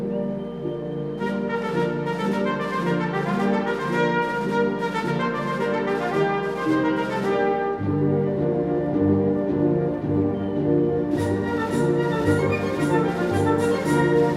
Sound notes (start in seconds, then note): 0.5 cheers and Applause